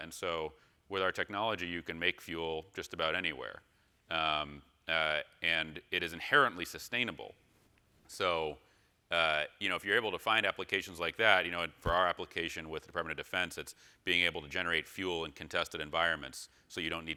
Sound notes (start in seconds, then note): none